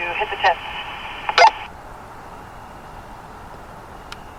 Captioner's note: radio beeping